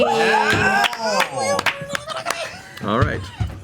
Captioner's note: all cheer